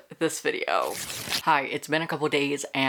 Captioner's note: paper rip